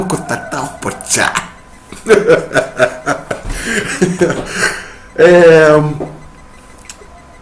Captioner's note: laughs